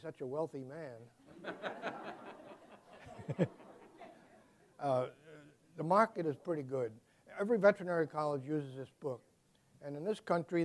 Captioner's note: laughter